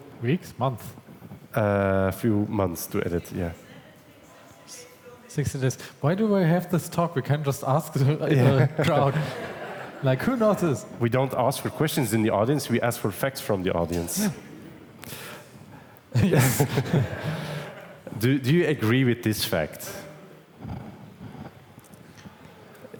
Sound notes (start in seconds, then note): 3.2 fan in audience yelling exact number; 8.2 audience laughs; 16.2 audience laughs